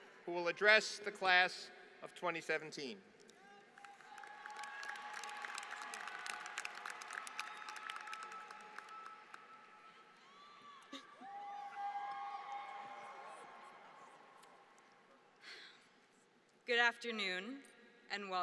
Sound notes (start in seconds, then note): 3.3 applause